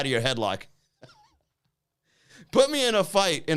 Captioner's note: laughs